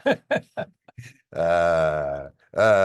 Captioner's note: laughs